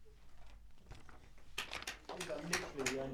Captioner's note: audience clapping